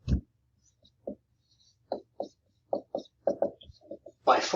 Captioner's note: marker knocking